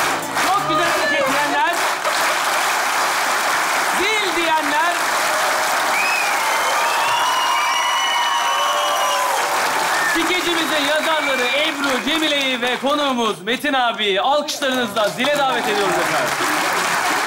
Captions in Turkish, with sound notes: -Çok güzel Hareket diyenler? (Alkış sesleri) Zil diyenler? (Alkış ve ıslık sesleri) Skecimizin yazarları Ebru, Cemile'yi ve konuğumuz Metin abiyi... ...alkışlarınızla dile davet ediyoruz efendim.